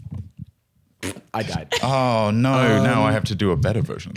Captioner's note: blows raspberry